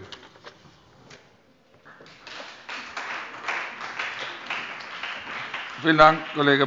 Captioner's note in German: Beifall bei dem BÜNDNIS 90/DIE GRÜNEN und der CDU